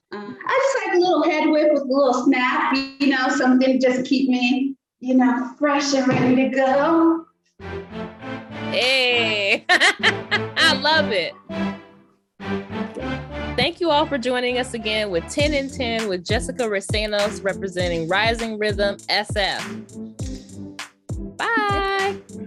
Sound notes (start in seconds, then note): 6.1 bright, upbeat pop music begins to play in background; 9.5 laughter